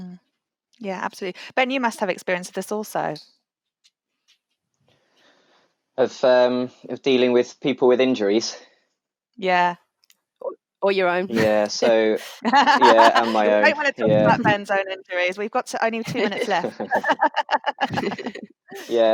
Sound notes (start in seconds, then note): 11.2 laughs; 11.3 laughter; 16.0 laughter